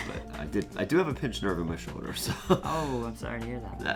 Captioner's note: laughs